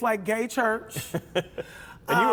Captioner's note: laughter